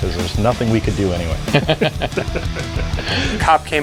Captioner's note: laughing